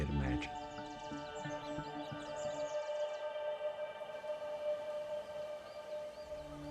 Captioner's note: birds chirping